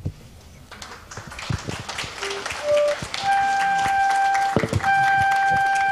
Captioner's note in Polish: oklaski